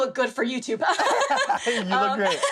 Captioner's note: laughter